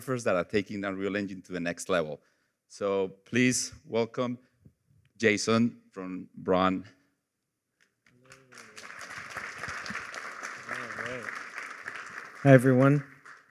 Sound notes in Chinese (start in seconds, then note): 8.2 掌声